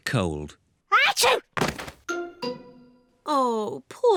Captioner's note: sneezes